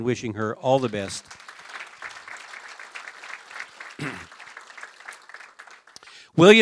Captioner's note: applause